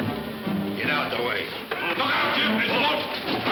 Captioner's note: men shouting; guns firing